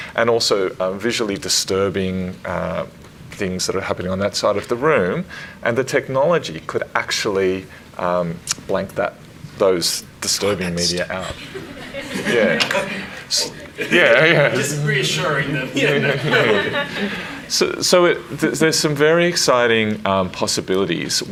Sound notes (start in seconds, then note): 11.0 speaks faintly; 11.1 everyone laughs